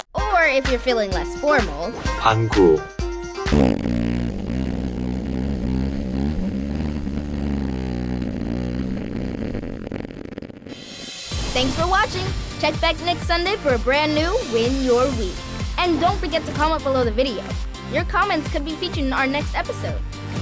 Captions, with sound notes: Or if you're feeling less formal... Bang-goo. [farting] Thanks for watching! Check back next Sunday for a brand new Win Your Week! And don't forget to comment below the video! Your comments could be featured in our next episode!